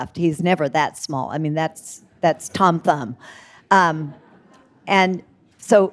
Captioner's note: audience laughing